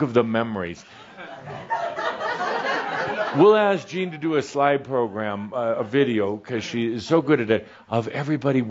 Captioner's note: some chuckles